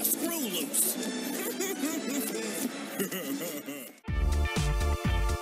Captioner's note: Kombo laughing goofily